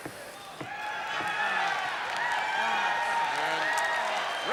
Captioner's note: crowd cheering